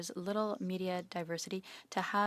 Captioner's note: speaking in French